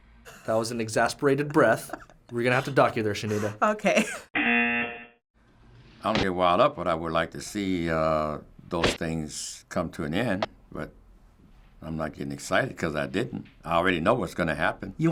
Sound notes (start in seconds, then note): 3.9 chuckles; 4.3 buzzer